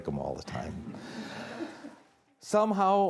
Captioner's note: audience chuckling